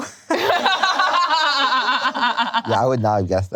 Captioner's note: laughing